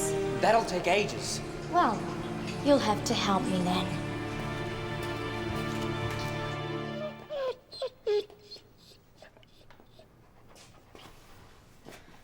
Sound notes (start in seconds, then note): 6.9 dog whimpers